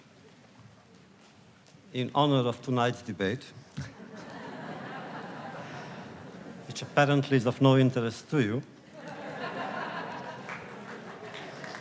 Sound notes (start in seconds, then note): 3.7 laughter; 8.9 laughter; 10.3 applause